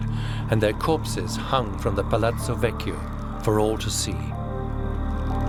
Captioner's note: tense music plays; sound of ropes tensing